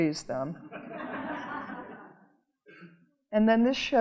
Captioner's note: audience laughing